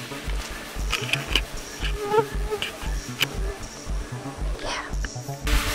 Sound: FLY Buzzing

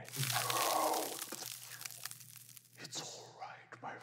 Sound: wind blowing

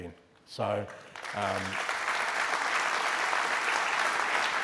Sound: applause

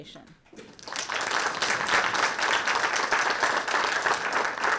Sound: audience applauding

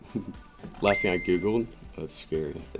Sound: ding

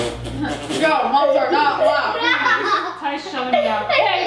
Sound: laughs

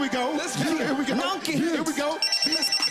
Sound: cellphone rings

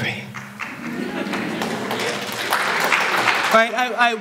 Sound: applause

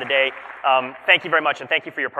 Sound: applause

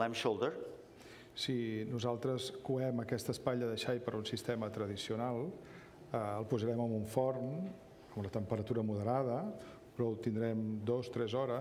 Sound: speaking catalan

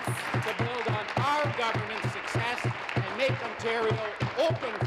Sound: applause

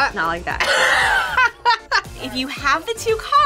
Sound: laughs

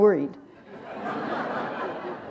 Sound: laughter

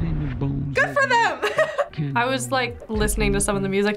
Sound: laughs

